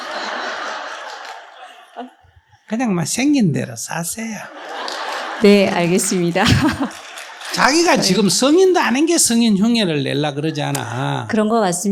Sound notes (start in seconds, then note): 0.0 audience Laughter; 4.4 audience Laughter